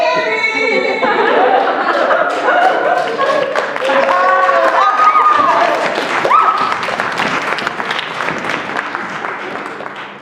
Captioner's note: laughter; cheering and applause